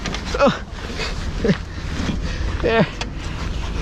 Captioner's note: growling